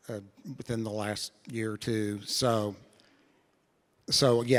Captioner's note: none